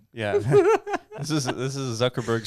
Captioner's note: laughing